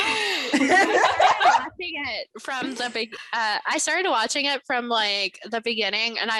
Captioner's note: laughter